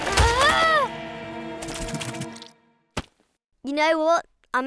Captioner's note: perplexed music; Malice screams